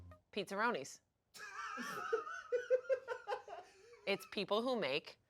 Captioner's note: laughs